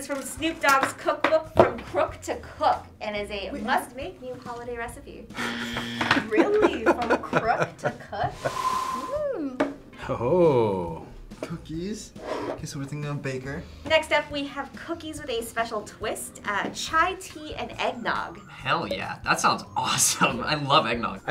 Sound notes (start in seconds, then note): 5.2 buzzer